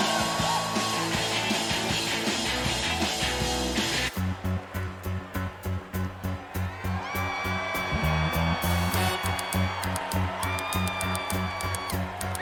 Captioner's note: cheers and applause